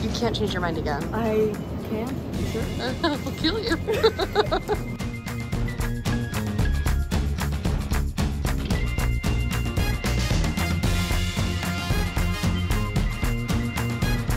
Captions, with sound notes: - You can't change your mind again. - I can't? You sure? (laugh) I'll kill you. (both laugh) (energetic music)